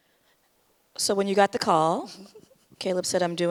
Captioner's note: laughs